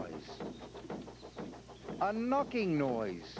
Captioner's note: knocking